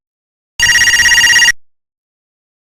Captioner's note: beeps